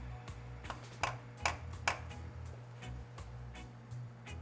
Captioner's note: tapping